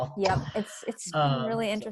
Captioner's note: laughing